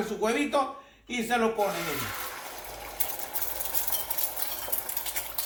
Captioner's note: eggs sizzling